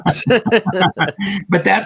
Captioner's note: laugh